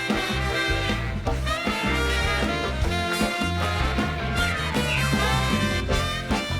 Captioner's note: bright music continues; audience applauding